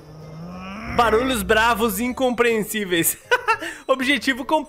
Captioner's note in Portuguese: risos